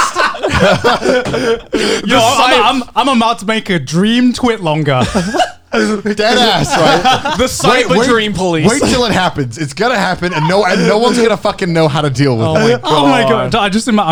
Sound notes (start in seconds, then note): 0.0 Joey and Garnt laughing; 10.0 Garnt laughing